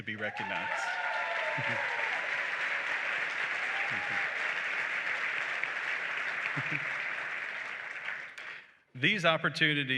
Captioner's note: applause and cheering